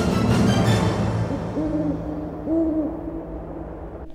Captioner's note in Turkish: Baykuş sesi